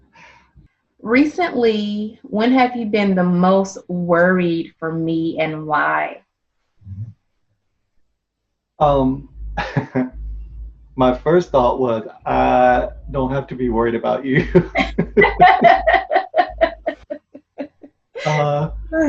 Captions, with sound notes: Recently, when have you been the most worried for me and why? - My first thought was I don't have to be worried about you. (laughs)